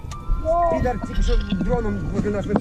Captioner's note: drone buzzes